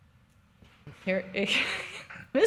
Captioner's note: chuckles